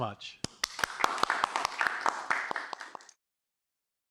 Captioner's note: applause